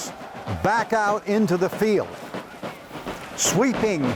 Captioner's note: soldiers shouting